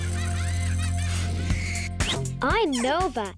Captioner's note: kids laughing